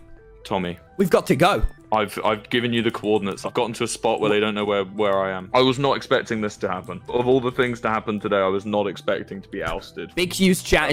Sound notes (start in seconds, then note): none